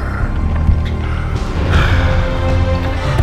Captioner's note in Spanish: Grunts